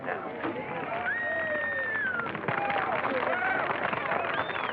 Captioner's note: cheering